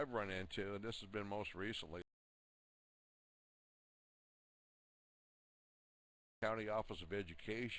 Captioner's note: audio drops